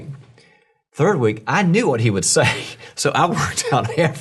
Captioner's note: laughs